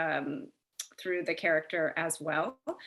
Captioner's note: lips smack